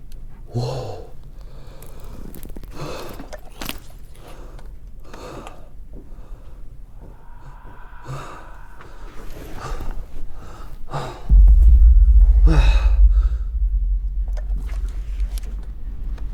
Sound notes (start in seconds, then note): 7.0 entity loudly breathes; 7.1 Pete gasps; 11.3 intense ghostly sound